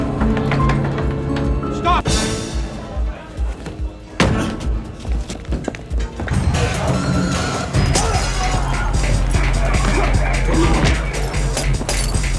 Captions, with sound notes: Stop! Police! - Hold it right there. (dramatic music) (glass shattering)